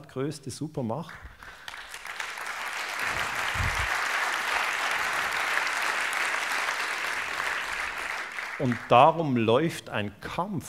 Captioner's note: applause